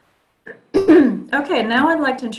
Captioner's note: throat clearing